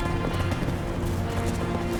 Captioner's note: running footsteps